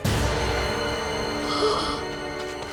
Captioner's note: gasping